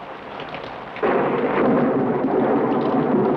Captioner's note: thunder